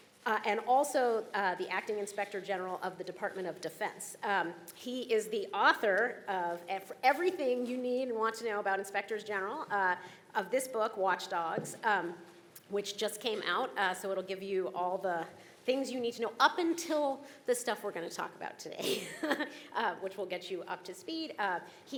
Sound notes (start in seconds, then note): 18.8 chuckling